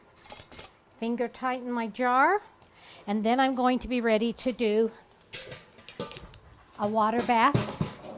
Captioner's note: canner clang